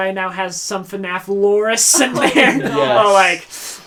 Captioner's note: laughs